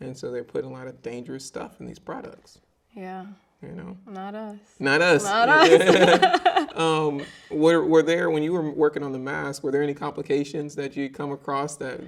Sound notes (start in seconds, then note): 5.0 both laughing